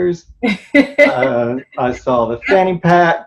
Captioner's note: laughs